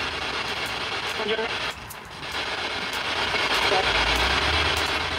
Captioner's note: device beeps